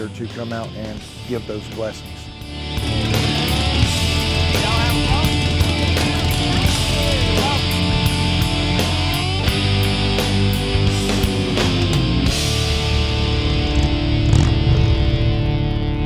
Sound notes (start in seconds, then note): 1.9 rock music; 5.5 people chattering; 13.3 bike chugging